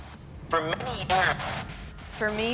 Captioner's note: spirit box voice